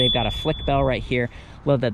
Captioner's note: bike bell dings